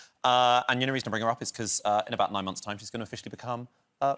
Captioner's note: none